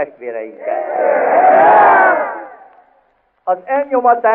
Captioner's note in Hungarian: éljenzés